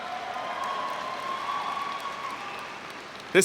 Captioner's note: cheering